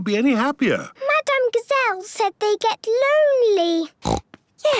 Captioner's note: snorting